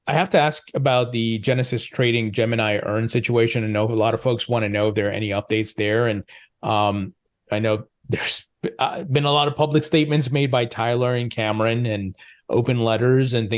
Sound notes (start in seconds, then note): 8.1 laughs